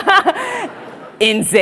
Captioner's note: laughs; audience laughs